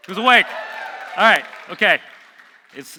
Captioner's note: audience cheering